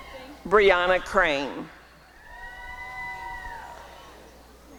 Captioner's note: applause and cheering